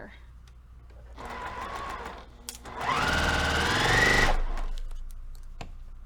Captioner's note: sewing machine rattling